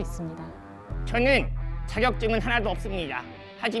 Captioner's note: confident